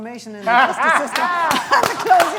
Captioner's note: applause